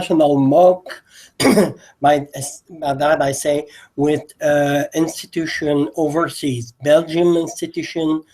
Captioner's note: cough